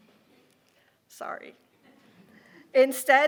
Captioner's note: audience laughing